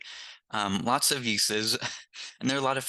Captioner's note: chuckles